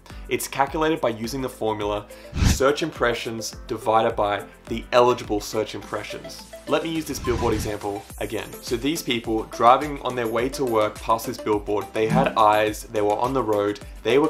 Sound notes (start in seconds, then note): 2.3 air whooshing